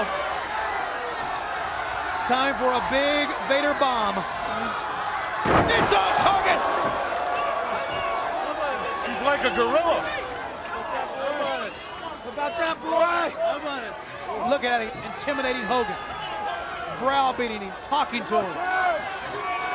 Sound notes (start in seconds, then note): 11.4 crowd chatter